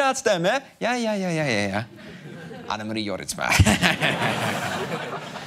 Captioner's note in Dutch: gemeen lachje